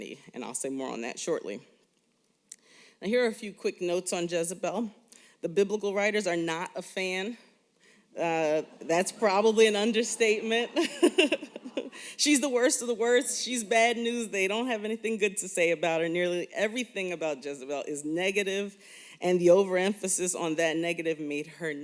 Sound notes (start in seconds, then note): 10.6 laughter